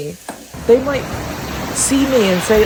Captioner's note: waves rumble